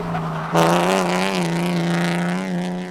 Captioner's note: tires screeching